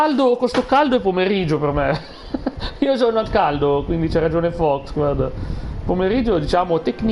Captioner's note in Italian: risate